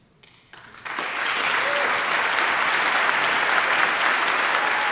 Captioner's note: audience applauding